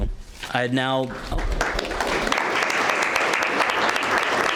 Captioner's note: members applauding